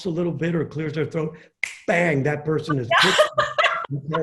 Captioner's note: snaps fingers